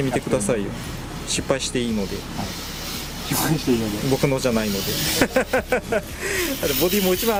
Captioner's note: laughs